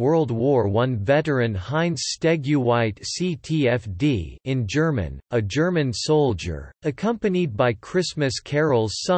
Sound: in German

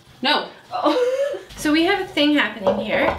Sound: laughs

